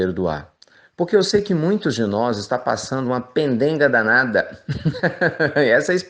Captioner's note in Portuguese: risos